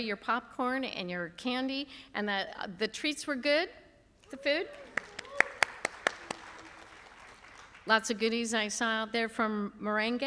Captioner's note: applause